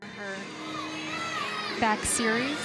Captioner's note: crowd cheers